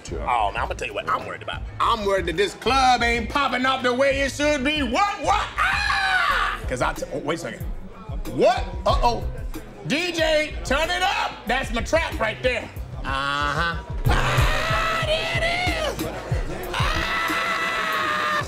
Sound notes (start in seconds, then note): 5.3 screams